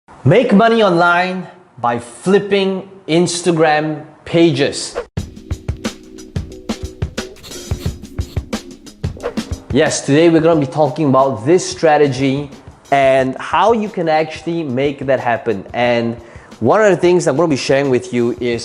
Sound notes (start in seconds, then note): 5.0 air whooshing; 5.2 upbeat music; 7.2 chalk scratching; 9.3 air whooshing